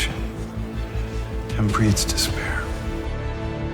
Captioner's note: voiceover